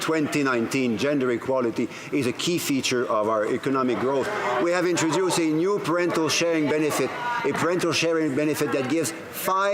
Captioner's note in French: voix de l'interprète